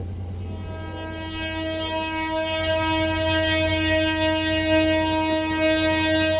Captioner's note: train horn blowing